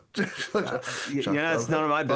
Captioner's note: laughing